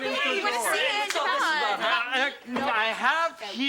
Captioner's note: overlapping chatter